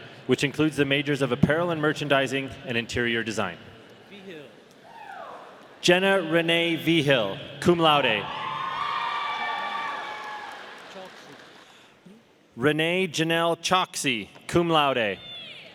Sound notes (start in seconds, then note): 8.2 audience cheering